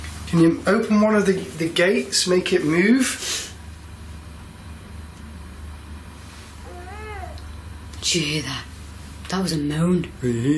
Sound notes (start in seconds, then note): 6.6 baby crying